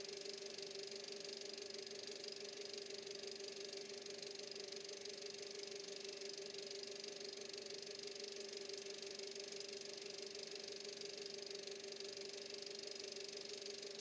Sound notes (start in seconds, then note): none